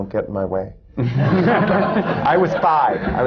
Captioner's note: laughter